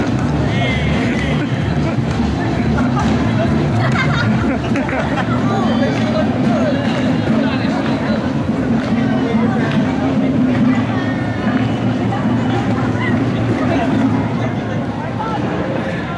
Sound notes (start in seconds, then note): 1.8 cameraman and others laughing